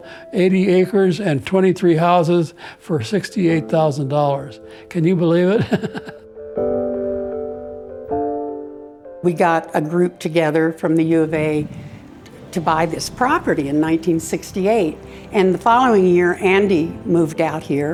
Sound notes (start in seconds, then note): 5.6 laughs